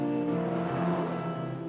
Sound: car engine vrooming

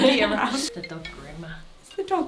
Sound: phone ringing

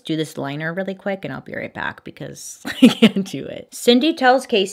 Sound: giggles

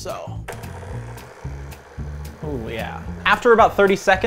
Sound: whirring

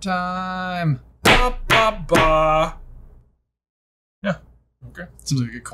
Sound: hands banging

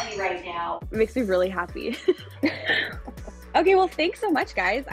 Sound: chuckles

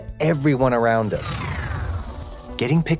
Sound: electricity whirring

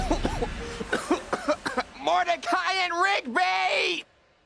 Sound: coughing

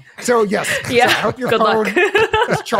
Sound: laughs

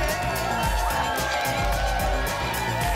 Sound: applause and cheering cont

